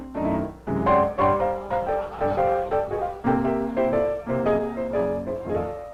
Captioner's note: bright piano music playing; guests chatting faintly